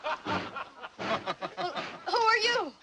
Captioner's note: laughs